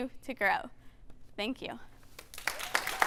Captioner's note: applause